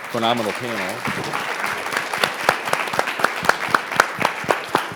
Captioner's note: audience applauds